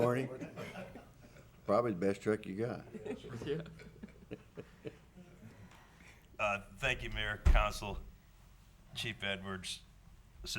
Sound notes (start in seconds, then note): 2.9 laughs